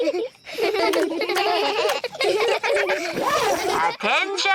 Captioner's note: all giggling; both giggle